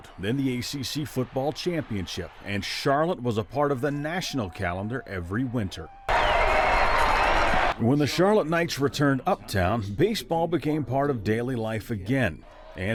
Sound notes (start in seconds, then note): 6.3 crowd cheering